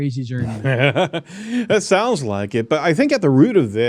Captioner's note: laughs